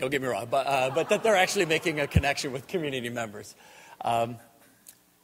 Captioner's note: audience laughter